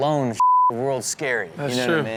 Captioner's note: beep